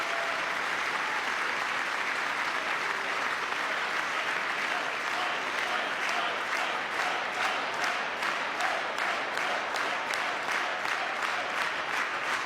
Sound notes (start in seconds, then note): 0.0 cheering; 2.2 applause